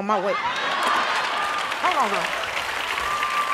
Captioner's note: audience laughing